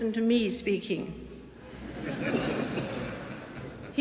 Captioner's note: audience laughing